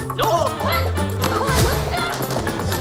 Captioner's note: keyboard thwacking